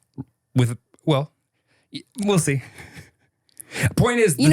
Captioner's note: chuckles